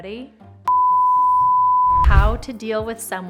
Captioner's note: production screen beeping